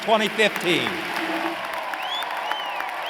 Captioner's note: applause